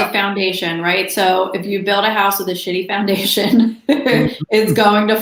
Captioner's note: laughs